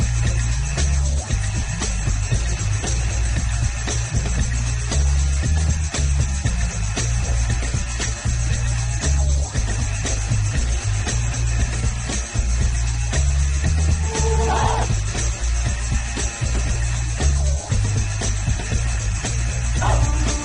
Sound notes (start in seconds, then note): 5.8 energetic music continues; 14.1 students grunting; 17.6 energetic music continues